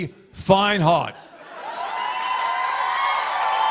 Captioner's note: cheers and applause